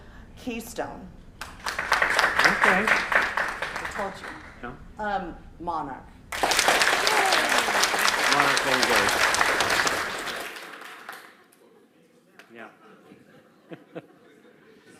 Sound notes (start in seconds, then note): 1.4 applause; 6.3 applause